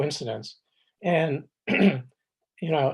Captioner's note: clears throat